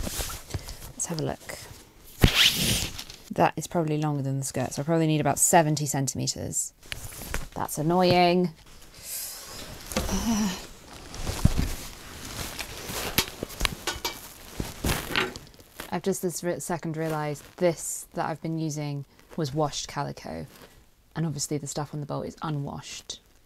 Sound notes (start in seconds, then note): 2.2 tape measure makes sliding noise; 9.5 rustling and clunking